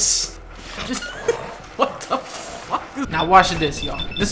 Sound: laugh

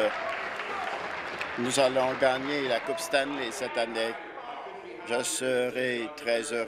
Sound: applause

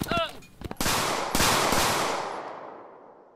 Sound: gunshots

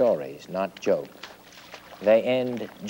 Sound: water sloshing

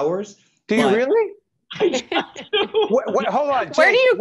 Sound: laughing

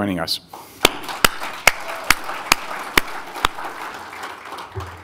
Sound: audience applauding

